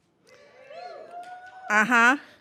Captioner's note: audience cheering